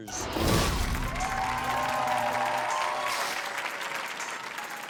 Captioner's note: audience applauds